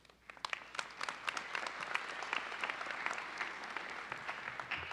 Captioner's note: audience applauding